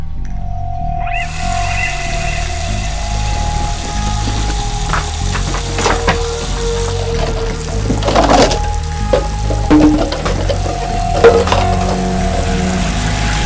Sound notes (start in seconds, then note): 0.1 sudden heavy water flow; 6.9 cups fall to the ground; 10.2 bath tub begins to run in the other room